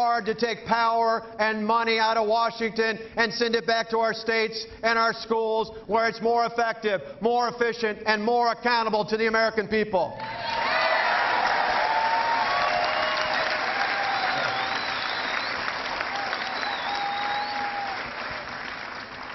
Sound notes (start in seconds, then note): 14.9 cheering